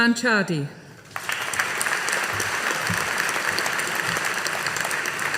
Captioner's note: audience applauding